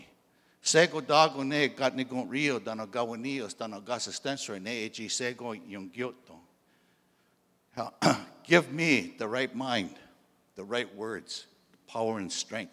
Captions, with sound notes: [in Indigenous language] [in English] [clears throat] "Give me the right mind, the right words, power, and strength